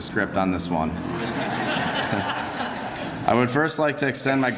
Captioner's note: laughter